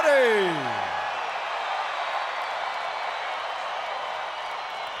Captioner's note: audience cheering